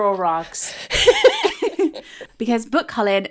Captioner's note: laughing